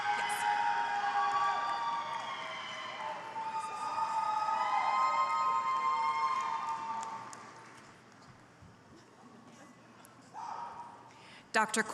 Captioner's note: applause